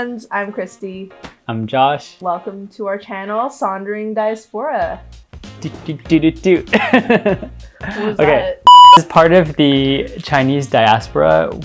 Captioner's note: laughs